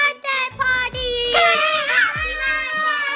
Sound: party horn screeches

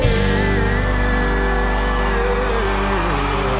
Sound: applause

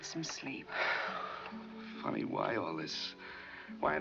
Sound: sighs

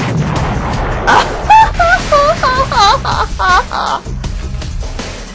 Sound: evil 90s anime villain laugh

